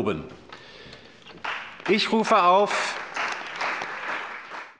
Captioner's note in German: Beifall bei der CDU und dem BÜNDNIS 90/DIE GRÜNEN